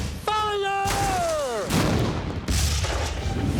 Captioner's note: explosions